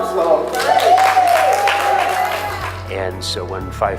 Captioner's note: crowd cheers and applauds